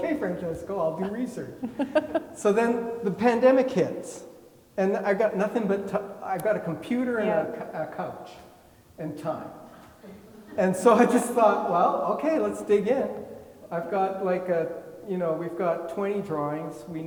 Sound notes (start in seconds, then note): 1.5 laughing; 10.1 attendees laughing